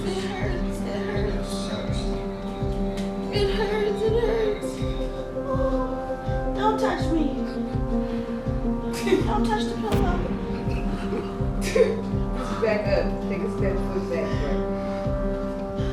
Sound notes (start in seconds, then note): 9.5 chuckling; 15.6 tense music continues